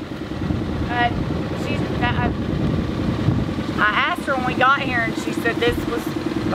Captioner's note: stammers